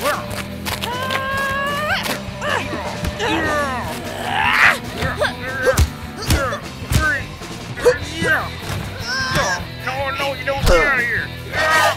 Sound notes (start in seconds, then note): 0.8 screaming